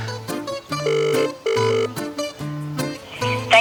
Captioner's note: phone ringing